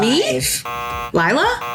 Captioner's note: buzzer